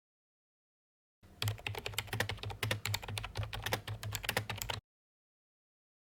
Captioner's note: typing